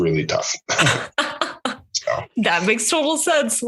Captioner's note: both laugh